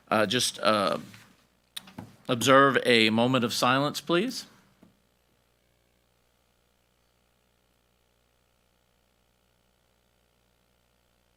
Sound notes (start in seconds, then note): none